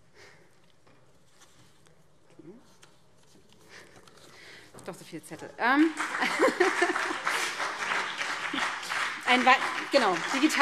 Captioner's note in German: Beifall BÜNDNIS 90/DIE GRÜNEN